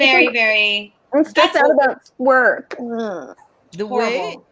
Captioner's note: whines mockingly